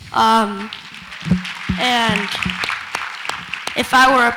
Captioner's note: audience applauds